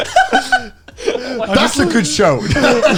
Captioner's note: laughing